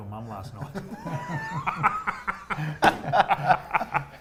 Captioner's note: laughing